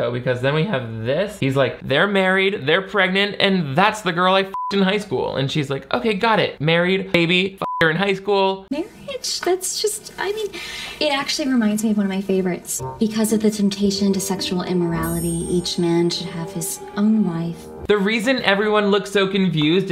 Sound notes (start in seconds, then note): 4.5 beep; 7.6 beep